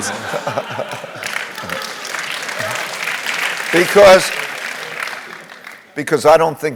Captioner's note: laugh; applause